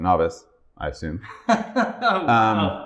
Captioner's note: laughter